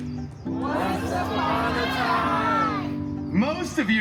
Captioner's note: everyone shouting “Once upon a time.”